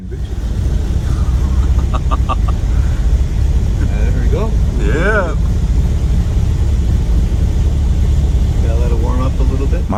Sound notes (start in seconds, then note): 0.2 Model A Mabel running; 0.8 laughter from backseat